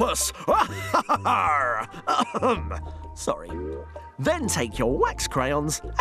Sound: laughs like a pirate

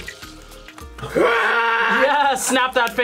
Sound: yells

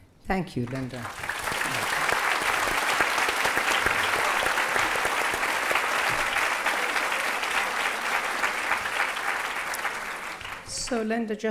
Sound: applause

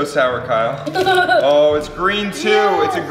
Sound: laughs

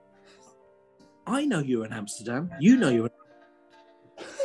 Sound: quietly; sniggering

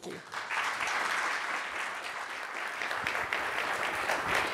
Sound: audience clapping

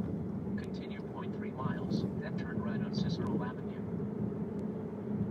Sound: GPS talking

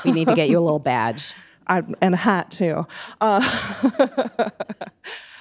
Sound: laughing

